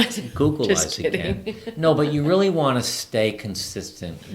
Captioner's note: laughs